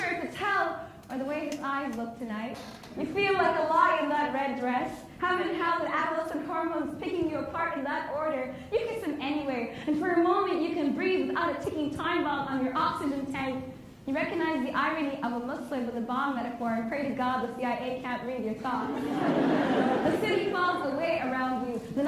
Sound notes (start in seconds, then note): 18.9 laughs